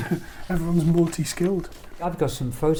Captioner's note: laughs